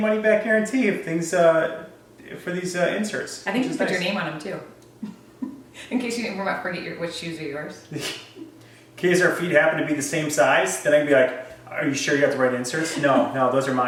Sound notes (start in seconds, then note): 5.0 laugh